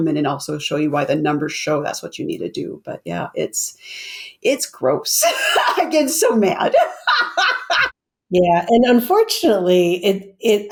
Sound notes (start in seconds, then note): 6.6 laughs